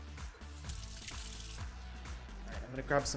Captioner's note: water running